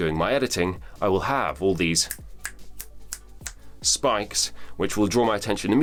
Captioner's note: snaps repeatedly